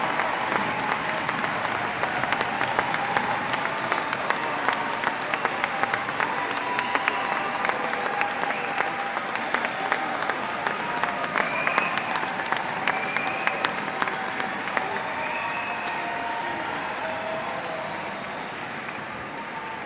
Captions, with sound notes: , please join me in congratulate ing our newest graduates. (cheers and applause).